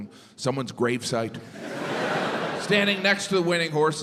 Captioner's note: crowd laughs